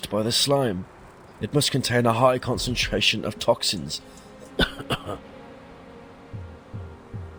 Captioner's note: cough